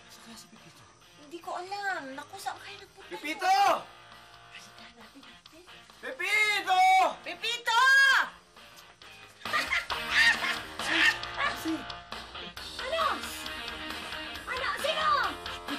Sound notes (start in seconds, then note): 3.1 shouts; 7.1 shouts; 9.2 Ising laughing